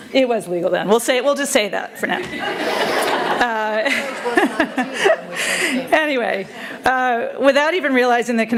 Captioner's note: laughter